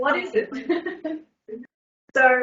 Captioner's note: laughs